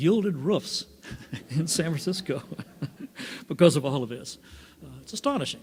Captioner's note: laughs